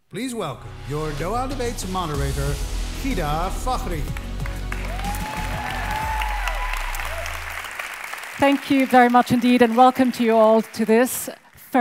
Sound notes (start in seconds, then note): 4.1 audience cheers; 4.4 audience applauds